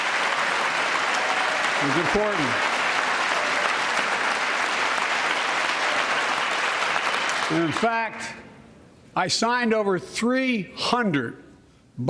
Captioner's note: applause